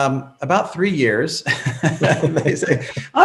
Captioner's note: laughing